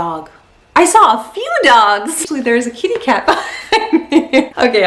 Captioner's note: laughs